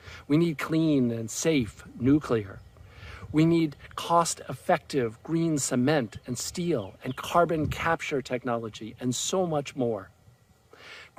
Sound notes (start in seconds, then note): none